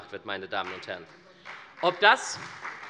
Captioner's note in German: Beifall bei der SPD und der FDP